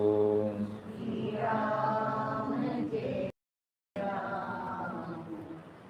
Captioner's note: audience chanting